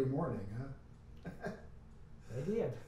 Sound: laughs

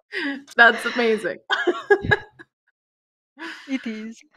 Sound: laughter

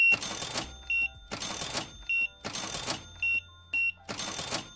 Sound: beeping

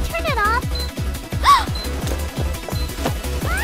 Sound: gasp

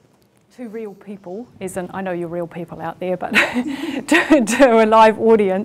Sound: laughs

